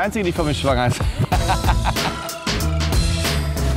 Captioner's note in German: lacht